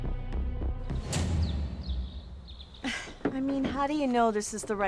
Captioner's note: birds chirping